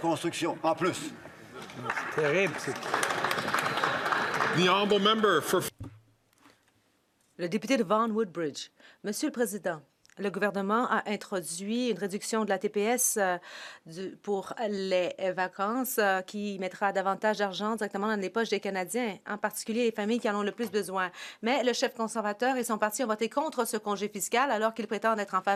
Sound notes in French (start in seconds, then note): 6.2 applaudissements; 14.6 voix de l'interprète